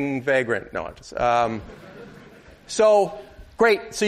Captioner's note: laughter